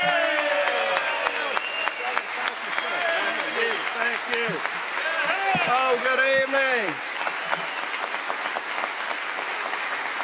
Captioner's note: cheers and applause